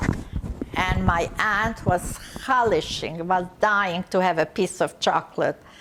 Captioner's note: non-english